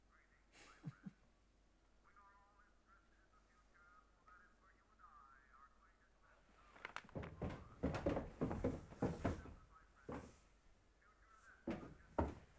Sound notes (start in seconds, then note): 1.8 muffled chatter from television; 7.0 footsteps pattering on wooden stairs